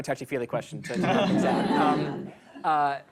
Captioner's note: laughter